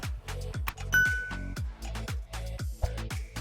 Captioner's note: bell dinging